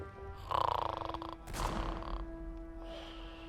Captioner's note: guard snoring